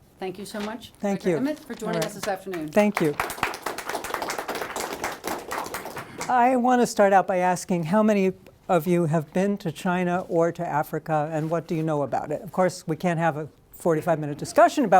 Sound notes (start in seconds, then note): 3.6 applause